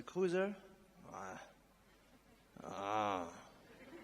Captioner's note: groans